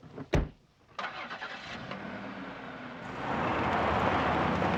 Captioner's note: engine revving